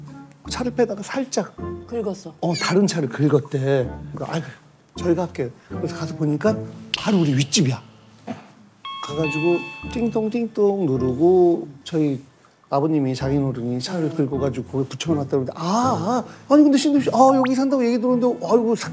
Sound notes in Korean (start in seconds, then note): 8.8 초인종